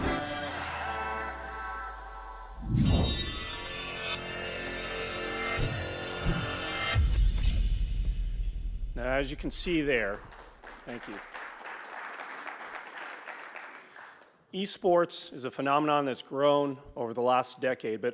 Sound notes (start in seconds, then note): 0.1 bright digital music; 9.8 audience applauds